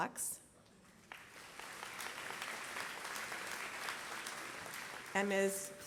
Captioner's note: applause